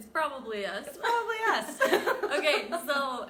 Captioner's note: chuckles